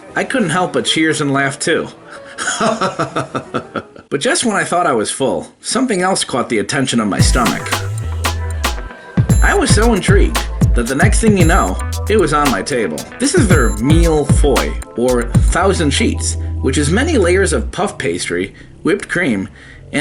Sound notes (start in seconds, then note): 2.4 laughing; 7.9 upbeat music